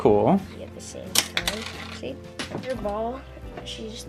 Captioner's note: Lego clatters